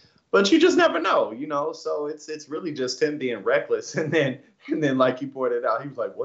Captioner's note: laugh